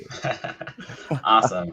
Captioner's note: people laughing